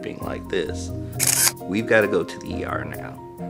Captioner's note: camera shutter clicks